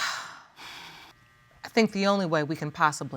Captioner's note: judge lake sighs